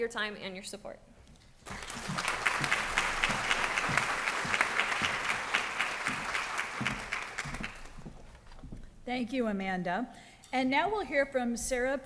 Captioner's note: applause